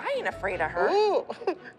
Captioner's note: chuckles